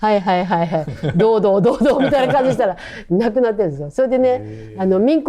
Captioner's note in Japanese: 笑い